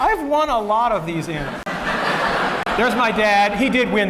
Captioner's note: laughter